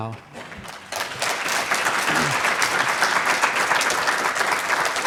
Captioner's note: audience claps